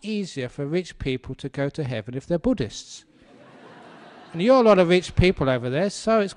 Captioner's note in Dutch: lachen